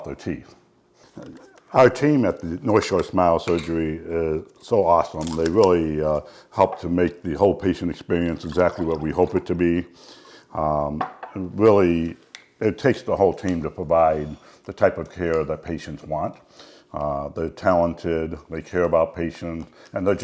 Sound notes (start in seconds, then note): 8.1 liquid pouring; 10.6 glass thud